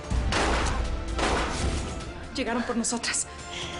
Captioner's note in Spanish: Disparos